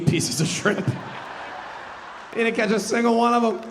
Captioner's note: audience laughing